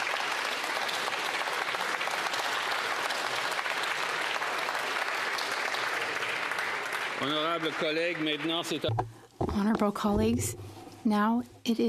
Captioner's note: applause